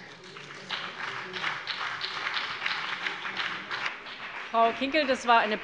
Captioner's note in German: Beifall